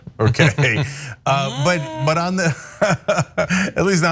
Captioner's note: laugh